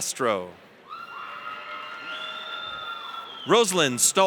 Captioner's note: audience cheers